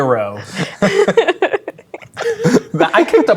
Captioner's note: players laughing